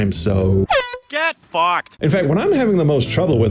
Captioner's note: air horn